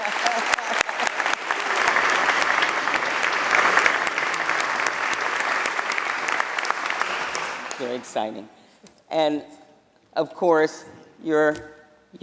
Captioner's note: applause